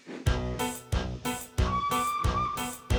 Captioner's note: toot toot